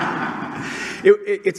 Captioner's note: laughter